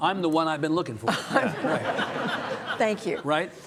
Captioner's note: audience laughing